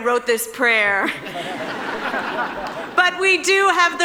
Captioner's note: audience laughing